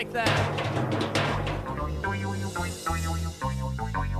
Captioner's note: clunking